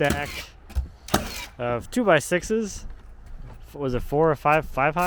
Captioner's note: nail gun clicking